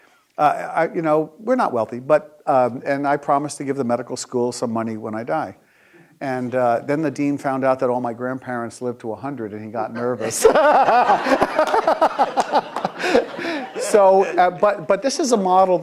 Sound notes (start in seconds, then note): 10.0 laughing; 10.0 audience laughing